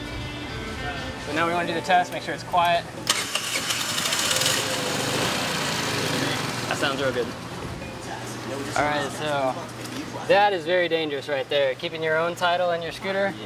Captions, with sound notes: So now we're going to do the test, make sure it's quiet. (engine noise) That sounds real good. Alright, so that is very dangerous right there. Keeping your own title in your scooter.